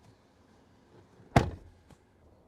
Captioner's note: door Thud